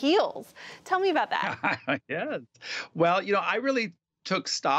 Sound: laughter

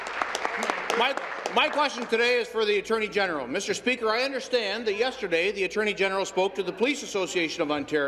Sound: applause

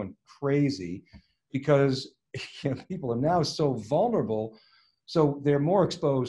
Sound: chuckles

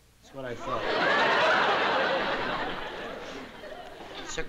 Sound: laughter

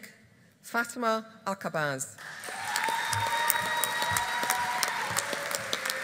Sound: audience applauding

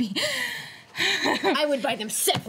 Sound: chuckles

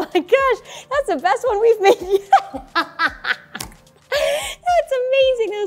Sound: laughing

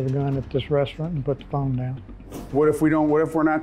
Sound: whooshing

